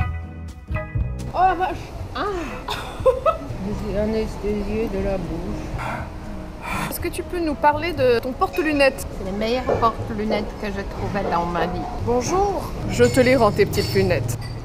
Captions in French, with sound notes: oh la vache! *RIRES* Est ce que tu peux nous parler de ton porte lunettes? Les meilleurs porte lunettes que j'ai trouvé dans ma vie Bonjour Je te les rends tes petites lunettes